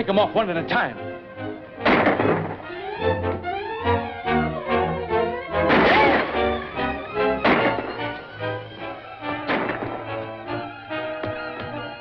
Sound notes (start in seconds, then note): 1.8 gunshots